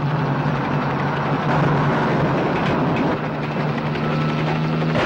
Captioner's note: helicopter roaring; truck engine whirring; gunshot pops